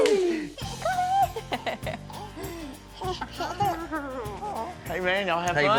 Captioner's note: cheering; laughter